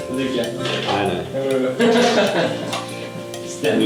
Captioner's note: laughter